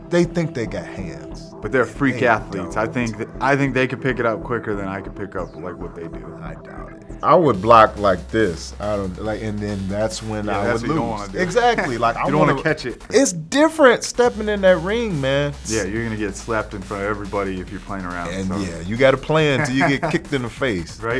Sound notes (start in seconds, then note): 10.5 laughing